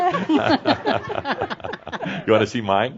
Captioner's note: they laugh